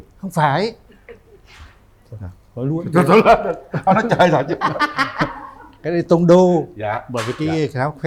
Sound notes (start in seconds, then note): 3.0 laughter